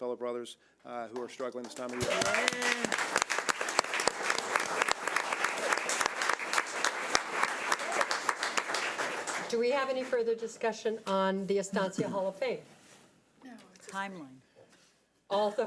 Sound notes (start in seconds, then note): 3.1 audience applause